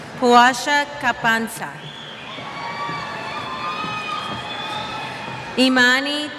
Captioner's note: cheers